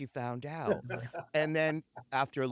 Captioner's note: laughter